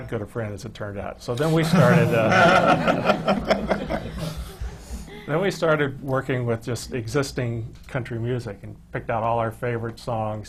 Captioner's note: laughter